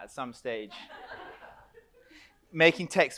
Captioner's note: audience laughs